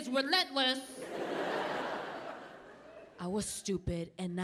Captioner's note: audience laughing